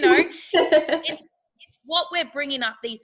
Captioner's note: laughing